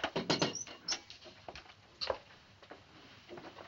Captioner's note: knocks